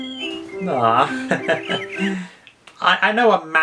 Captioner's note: chuckles